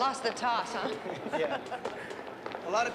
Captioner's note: laughing